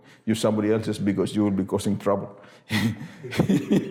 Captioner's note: laughs